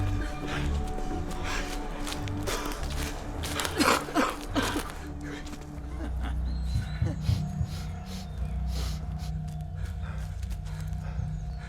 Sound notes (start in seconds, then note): 2.2 both gasping